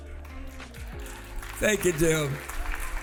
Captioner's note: applause